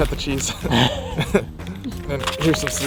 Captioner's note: both laugh